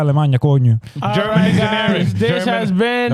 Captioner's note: speaking In Foreign Language